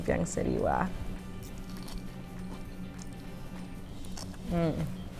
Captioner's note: vegetable crunching